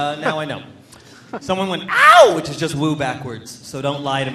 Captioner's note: cheers